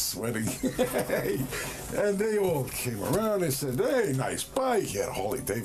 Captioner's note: laughter